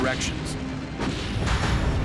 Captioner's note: ship firing